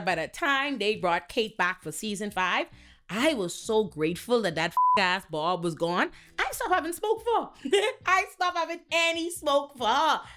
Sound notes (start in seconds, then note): 4.7 beep